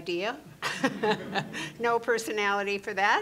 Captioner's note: chuckling